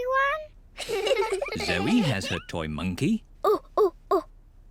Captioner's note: hoots